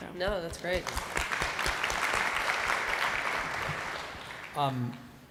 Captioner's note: audience applauding